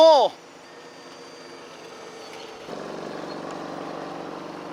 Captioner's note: mechanical whirring